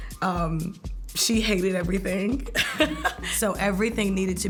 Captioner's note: laughs